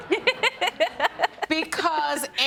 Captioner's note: laughs